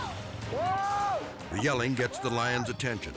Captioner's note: suspenseful music; screaming